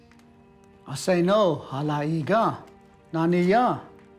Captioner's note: speaking Cherokee